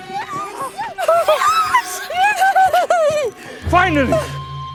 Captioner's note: laughs excitedly